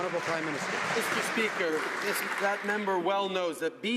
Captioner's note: some Applause